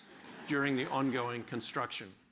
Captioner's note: audience laughs